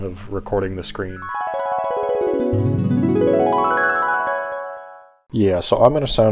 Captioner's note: flashback noises